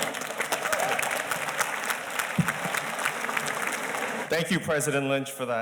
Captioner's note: audience applauding